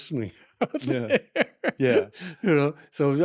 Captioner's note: laughter